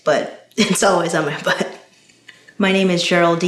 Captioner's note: laughs